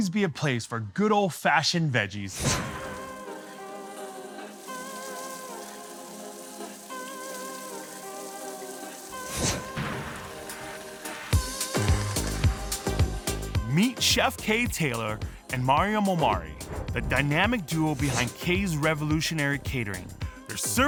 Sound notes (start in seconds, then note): 2.1 upbeat urban music; 4.8 water splashing